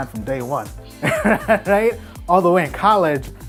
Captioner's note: laughs